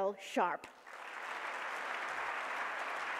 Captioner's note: applause